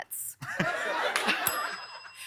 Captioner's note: ding; laughter; ding